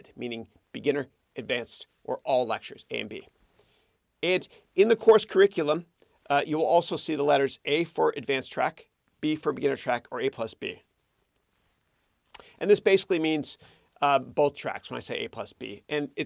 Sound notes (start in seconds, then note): none